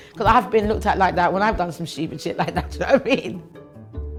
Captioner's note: laughs